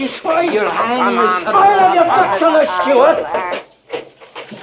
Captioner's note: furious arguing